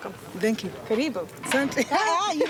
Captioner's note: speaks in native tongue